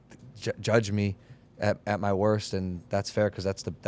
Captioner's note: none